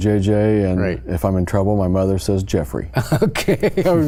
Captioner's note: laughs